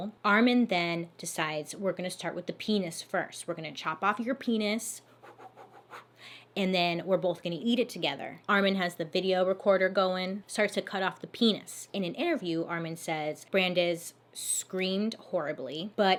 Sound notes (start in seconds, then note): 5.1 exhaling rapidly